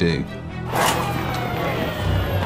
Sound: sirens wailing

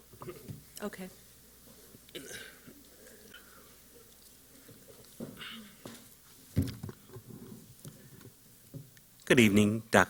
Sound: silence

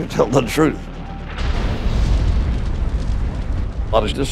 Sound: explosion

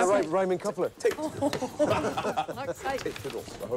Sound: laughing

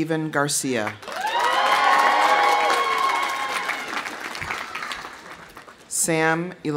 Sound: audience applauding; audience cheering

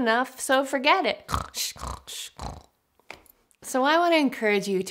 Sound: snoring

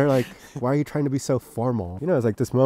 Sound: chuckles

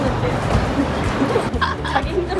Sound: haha

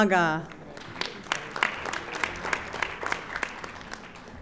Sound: audience applauding

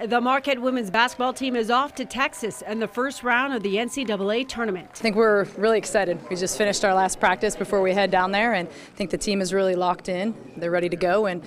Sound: applause

